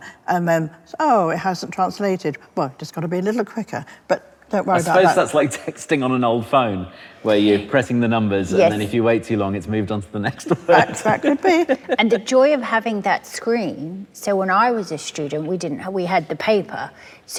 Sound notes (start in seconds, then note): 10.4 laughs